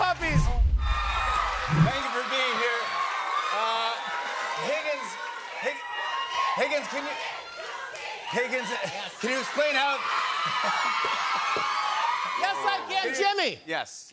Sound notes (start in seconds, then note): 0.2 cheers and applause; 10.1 cheering continues